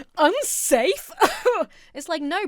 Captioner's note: laughs haughtily